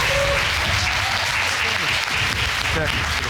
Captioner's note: audience cheering